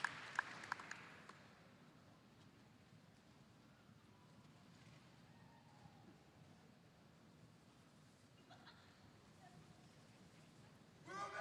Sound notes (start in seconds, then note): 1.5 applause